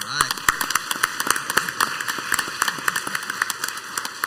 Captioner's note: crowd applauds